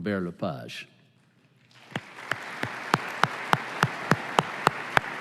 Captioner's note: applause